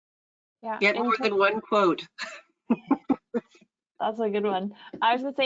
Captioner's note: chuckles